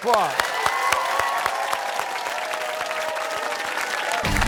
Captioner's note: cheers and applause